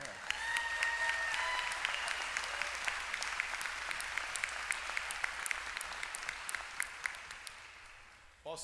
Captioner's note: applause